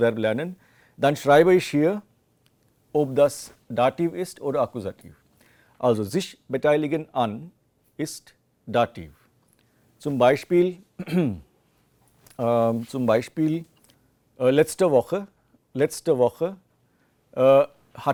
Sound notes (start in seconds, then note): 11.0 coughs